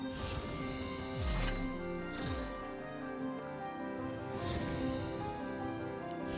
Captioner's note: chimes